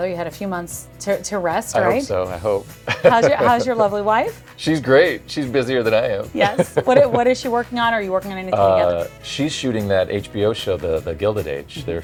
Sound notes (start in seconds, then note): 2.8 chuckles